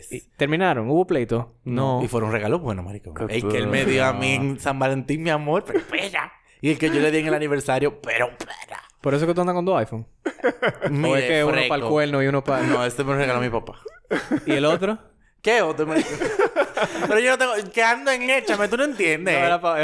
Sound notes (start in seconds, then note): 10.2 laughs; 13.0 laughs